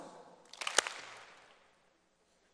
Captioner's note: applause